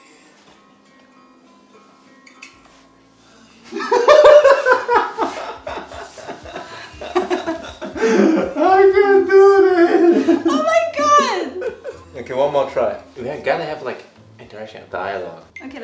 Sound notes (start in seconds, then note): 3.7 both laughing